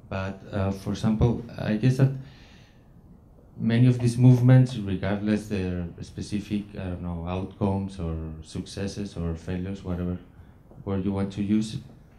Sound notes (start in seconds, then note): none